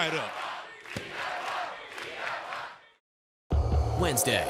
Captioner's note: crowd cheering